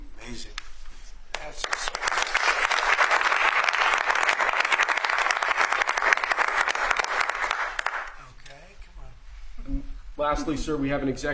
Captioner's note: applause